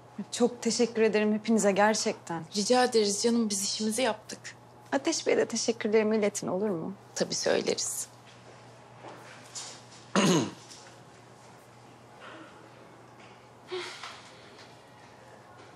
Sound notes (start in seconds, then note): 10.1 he cleared his throat